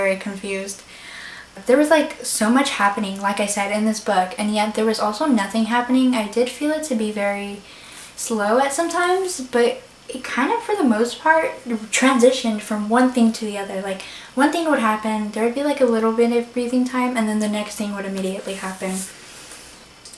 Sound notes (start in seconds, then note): none